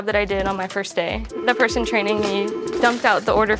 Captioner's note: phone ringing